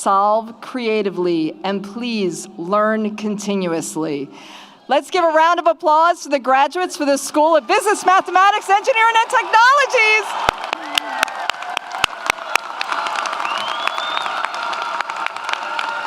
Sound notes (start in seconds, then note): 10.4 audience applauds; 10.4 audience cheers